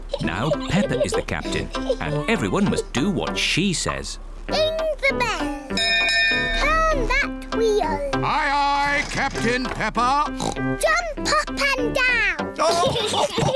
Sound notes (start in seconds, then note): 5.7 rings bell; 10.1 oinks; 12.6 all laugh